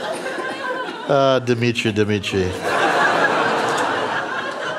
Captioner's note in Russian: смех